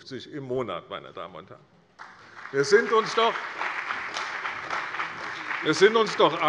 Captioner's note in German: Beifall bei der CDU und dem BÜNDNIS 90/DIE GRÜNEN